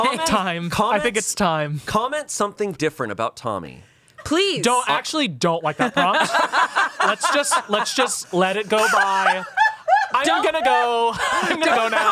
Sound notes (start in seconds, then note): 5.8 everyone laughs